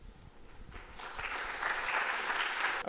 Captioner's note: applause